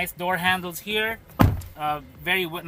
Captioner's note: door closes